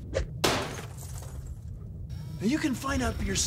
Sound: <i> shatters</i>

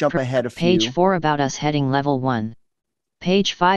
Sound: computer Voice

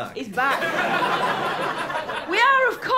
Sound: laughter

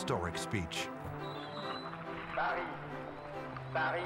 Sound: french dialogue

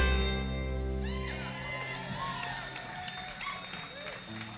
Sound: clapping

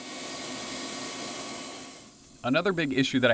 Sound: bandsaw being used

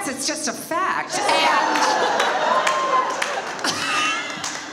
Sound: audience laughs; laughs

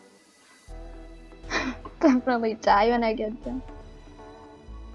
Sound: awkward laugh

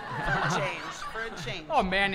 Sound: audience laughter

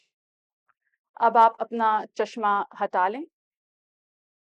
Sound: in Urdu

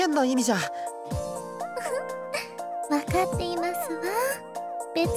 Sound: giggle

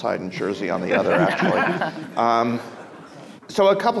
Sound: people laughing

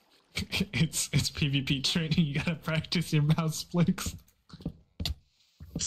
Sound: laughs

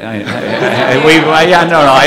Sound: laughter

